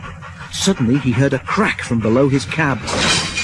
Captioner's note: clank